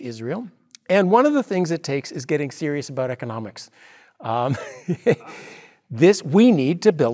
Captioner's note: laugh